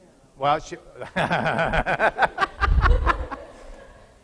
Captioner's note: laughing